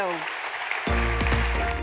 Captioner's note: applause